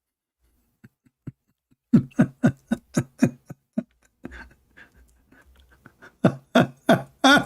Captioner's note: Ketawa